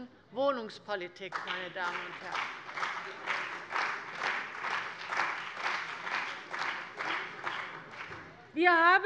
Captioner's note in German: Beifall bei der CDU und dem BÜNDNIS 90/DIE GRÜNEN